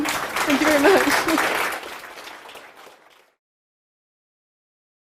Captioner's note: applause